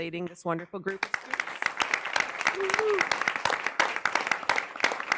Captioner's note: audience clapping